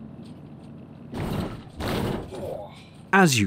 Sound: thump!

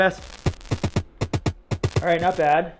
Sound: upbeat drum music; static crackling

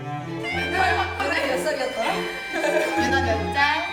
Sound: laugh

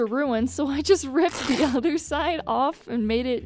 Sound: riiip; riip

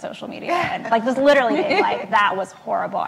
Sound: laughs

